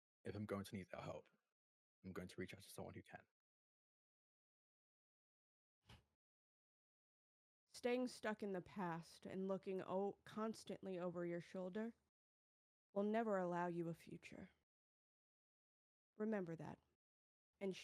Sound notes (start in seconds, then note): none